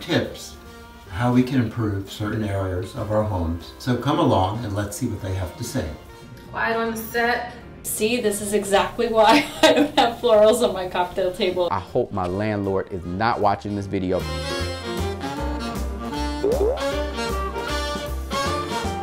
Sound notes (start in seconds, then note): 9.3 laughs; 14.1 jazzy upbeat music